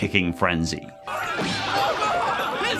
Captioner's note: screaming